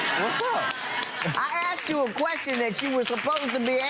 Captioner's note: laughter